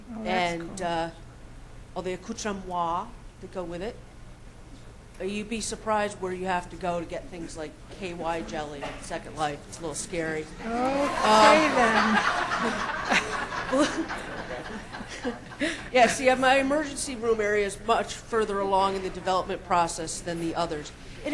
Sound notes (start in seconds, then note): 10.6 laughs